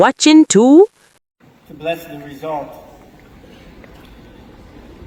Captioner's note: applause and background noise